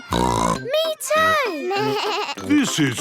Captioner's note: snorts; bleating